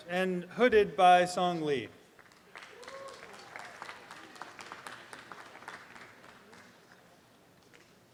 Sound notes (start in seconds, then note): 2.2 applause and cheering